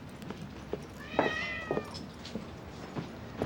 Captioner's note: cats meows